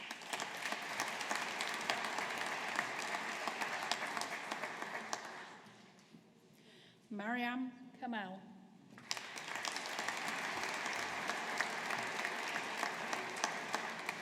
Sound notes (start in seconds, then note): 0.0 audience applauding; 9.0 audience applauding